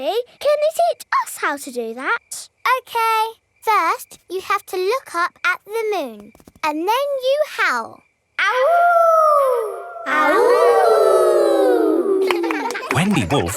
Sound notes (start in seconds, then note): 8.5 howling; 10.5 kids howling